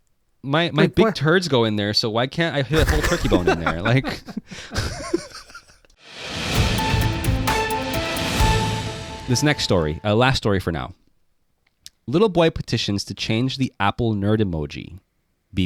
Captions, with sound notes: - My big turds go in there, so why can't I put a whole turkey bone in there? (both laughing) (upbeat music) - This next story, last story for now. Little boy petitions to change the Apple nerd emoji,